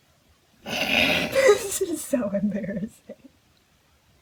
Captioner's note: stiffling laughter